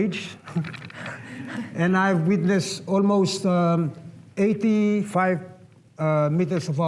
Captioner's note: chuckling